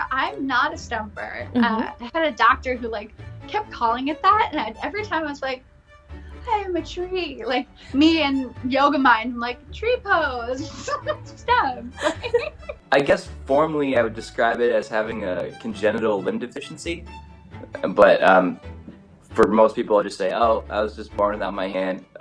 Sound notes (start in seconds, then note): 11.9 laughs